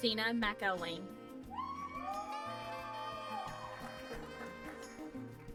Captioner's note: applause